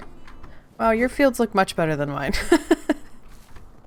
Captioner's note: laughs